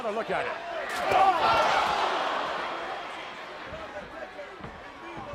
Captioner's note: crowd gasping